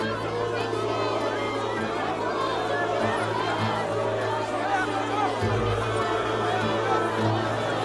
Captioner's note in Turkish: Kalabalık bağrışma sesleri